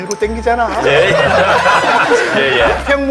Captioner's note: haha!